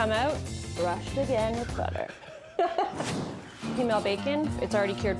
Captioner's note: laughs